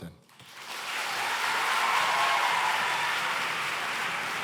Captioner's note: cheering and applause